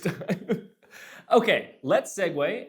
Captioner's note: laughs